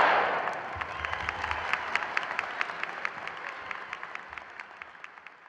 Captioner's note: audience applauding